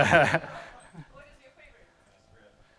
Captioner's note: laughing